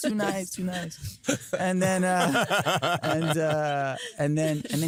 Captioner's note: laughter